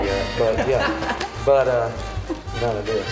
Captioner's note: laughs